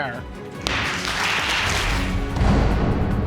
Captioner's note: audience clapping